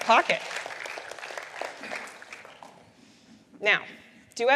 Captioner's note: applause